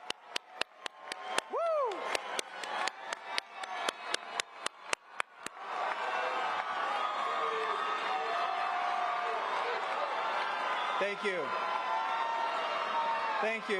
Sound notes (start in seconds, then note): 4.9 applause